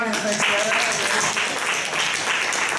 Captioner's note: applause